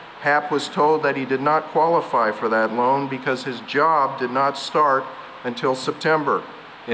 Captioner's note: none